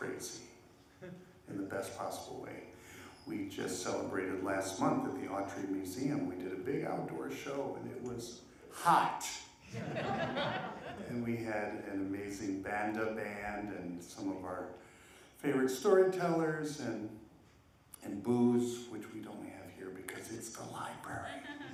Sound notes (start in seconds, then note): 9.7 laughter